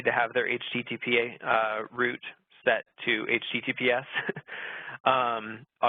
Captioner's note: laughing